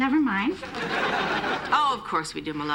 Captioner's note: laughter